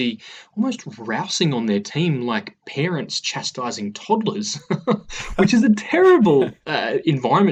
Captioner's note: laughs